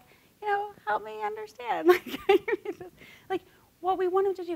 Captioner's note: laughing